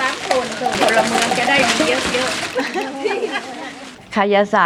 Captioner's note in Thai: เสียงหัวเราะ